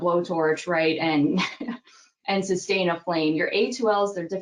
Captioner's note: laughs